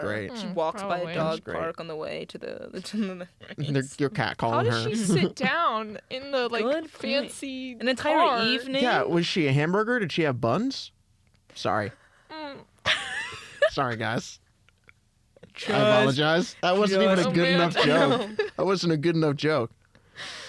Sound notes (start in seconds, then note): 4.6 laughs; 12.8 suppressed laughter